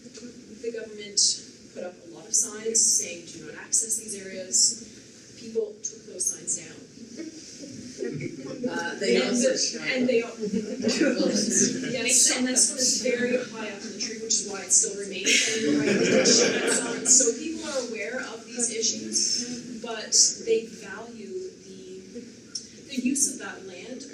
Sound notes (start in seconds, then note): 7.1 audience chuckles; 15.4 audience laughter